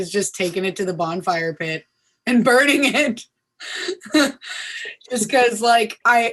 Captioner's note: laughing